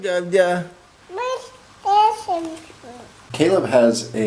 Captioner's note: babbling